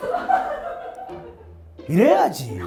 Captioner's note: Ji Sang Ryul has the floor laughing